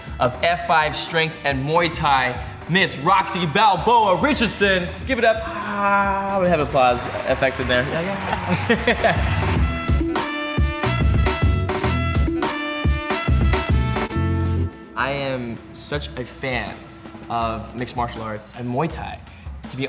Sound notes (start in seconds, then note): 7.7 laughs; 9.1 applause; 9.9 energetic, bouncy music